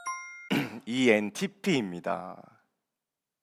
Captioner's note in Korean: 목을 가다듬음